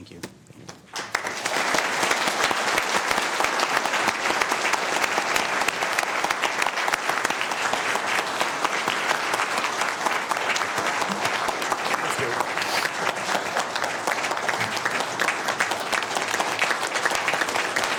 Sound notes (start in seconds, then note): 10.3 applause